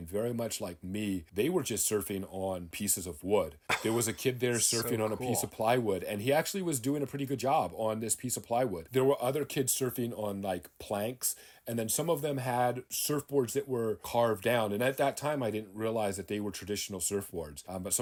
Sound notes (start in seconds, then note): 3.7 laughing